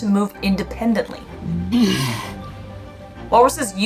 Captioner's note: background music; walrus vocalizing